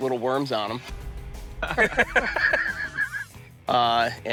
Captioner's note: laughter